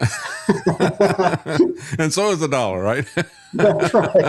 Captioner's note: laughing